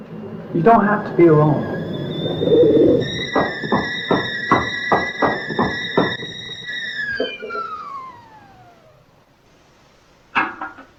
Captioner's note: tea kettle whistling